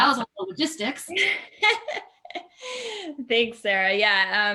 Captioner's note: laughs